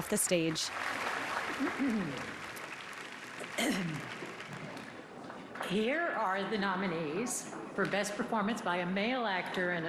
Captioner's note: applause